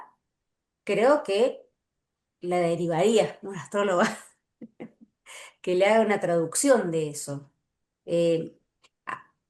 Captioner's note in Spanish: risas